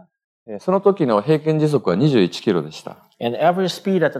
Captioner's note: speaking japanese